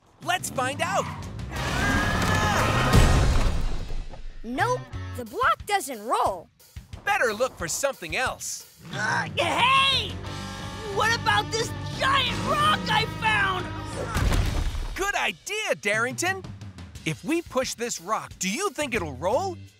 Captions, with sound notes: Let's find out. [grunting] Nope, the block doesn't roll. Better look for something else. Hey,! What about this giant rock I found? Good idea, Darrington! If we push this rock, do you think it will roll?